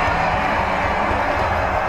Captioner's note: cheering